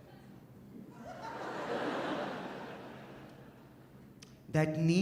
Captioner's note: audience laughs